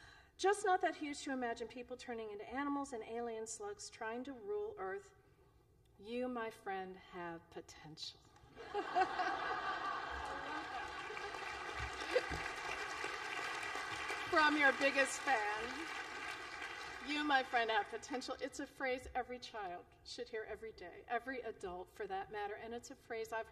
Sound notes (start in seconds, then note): 8.5 laughter; 13.1 applause